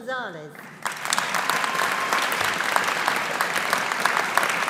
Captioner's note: audience applauding